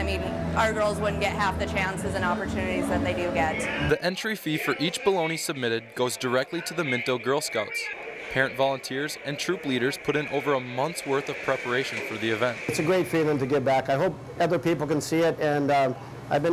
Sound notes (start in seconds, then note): 4.1 voiceover